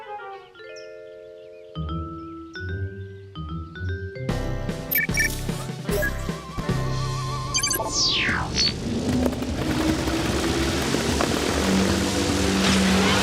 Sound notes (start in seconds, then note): 4.9 beeping; 7.9 whirring